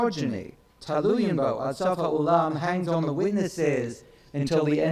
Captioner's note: speaks in foreign language